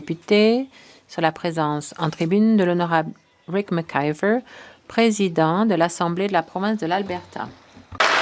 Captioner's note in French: voix de l'interprète